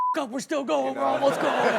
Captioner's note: beep